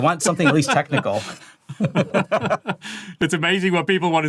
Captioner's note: both laugh